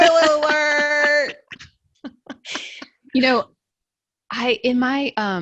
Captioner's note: laughs loudly